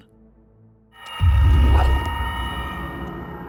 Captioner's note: eerie noises